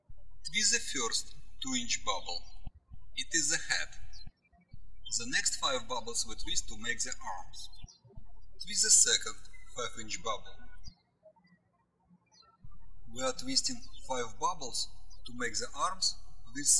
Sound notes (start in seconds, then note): 12.3 birds chirping